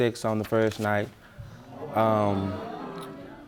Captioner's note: audience murmuring